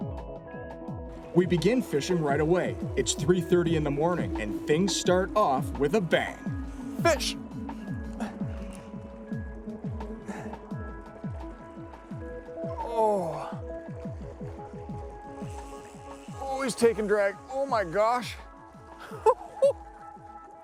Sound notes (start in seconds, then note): 12.7 groans; 19.0 chuckles